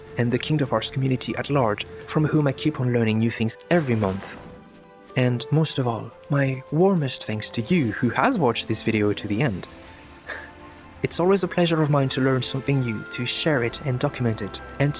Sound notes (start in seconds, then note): 10.3 chuckles